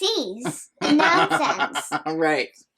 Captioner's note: nana laughing